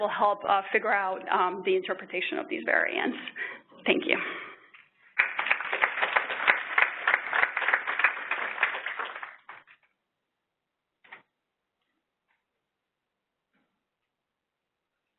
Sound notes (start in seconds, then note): 5.0 applause